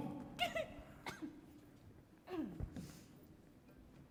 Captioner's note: giggles